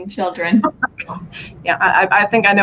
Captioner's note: laughter